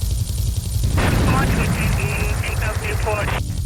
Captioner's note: siren wailing